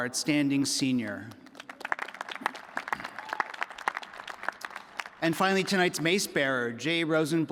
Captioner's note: applause